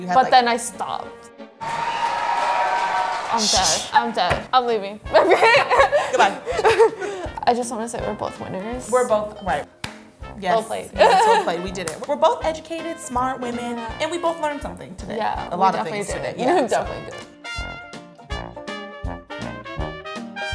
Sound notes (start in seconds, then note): 1.6 cheers and applause; 5.1 both laugh; 17.8 upbeat music